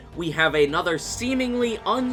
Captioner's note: none